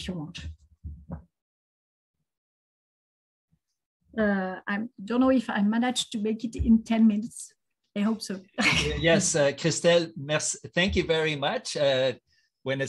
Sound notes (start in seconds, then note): 1.4 silence; 8.6 laughs